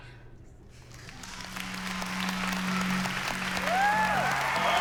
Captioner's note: applause; cheering